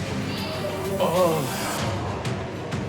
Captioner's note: groans